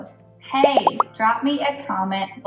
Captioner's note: bubbles pop